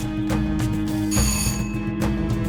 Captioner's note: bell Rings